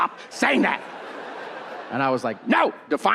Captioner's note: audience laughing